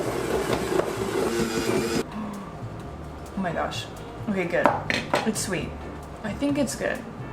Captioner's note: gasp